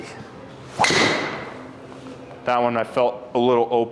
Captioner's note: club swishing and clicking; impact of ball thudding